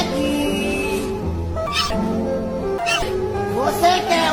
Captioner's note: groaning scared